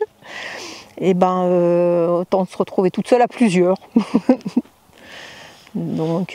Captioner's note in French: Rires